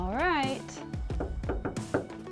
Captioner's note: hand knocking